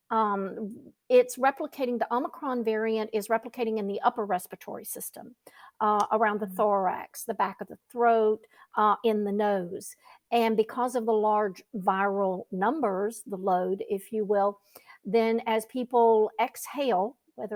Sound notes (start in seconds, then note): none